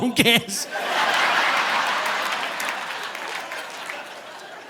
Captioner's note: audience laughing